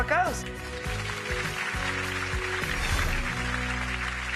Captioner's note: applause